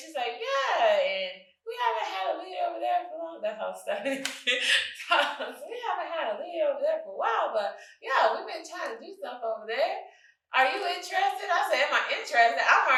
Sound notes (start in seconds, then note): 4.0 chuckles